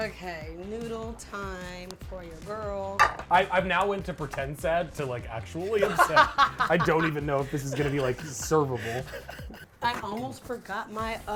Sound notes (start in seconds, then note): 3.0 spoon taps; 5.7 laughs